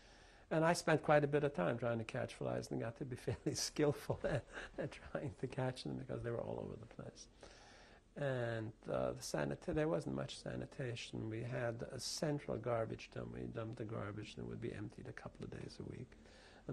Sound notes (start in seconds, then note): 4.0 laughs